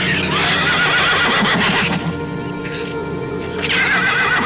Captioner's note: dark orchestral music; shrew chatter; horse neighs